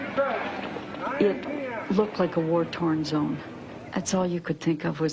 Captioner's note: female voice